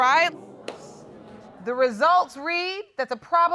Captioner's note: audience murmuring